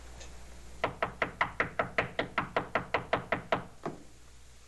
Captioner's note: knocking continues